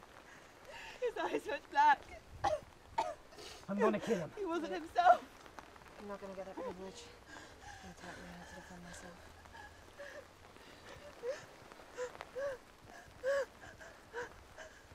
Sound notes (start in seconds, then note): 2.9 coughing; 9.7 rain falling; 12.8 crying